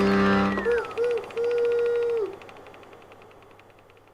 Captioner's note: film reel spinning